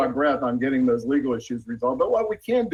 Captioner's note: ~audio distortion~